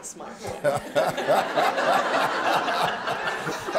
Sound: laughter

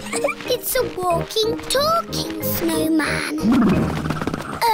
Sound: laughs

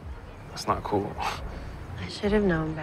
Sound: scoffs

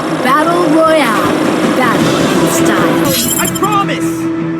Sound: game Battle Sound Effects

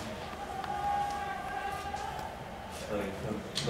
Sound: Allahu Akbar shoutings

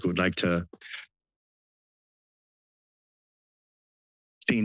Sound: pause

